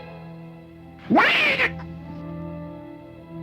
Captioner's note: cat meows